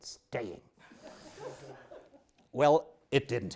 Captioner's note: audience laughs